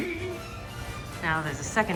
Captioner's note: laughs